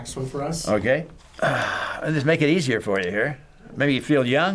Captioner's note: sighs